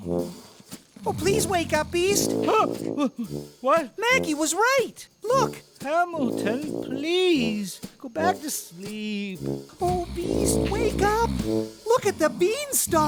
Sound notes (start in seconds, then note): 1.8 yelp of surprise